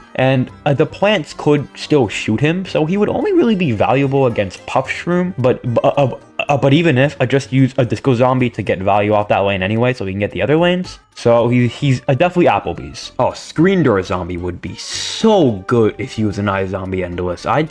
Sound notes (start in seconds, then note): 5.2 stutter Moment